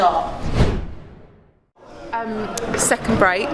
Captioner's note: air whooshing